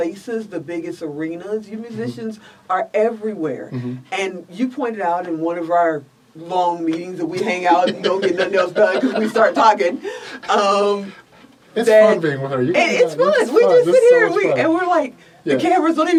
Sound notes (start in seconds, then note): 11.2 both laugh